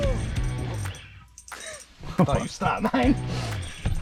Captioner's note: upbeat rock music; laughs